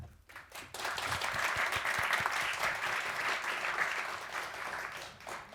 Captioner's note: audience applauding